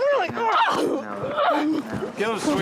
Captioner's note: grunts